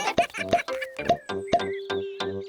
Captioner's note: all giggling